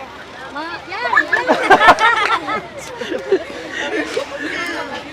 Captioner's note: laughter